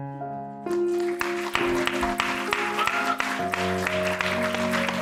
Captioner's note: applause